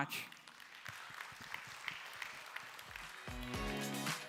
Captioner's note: applause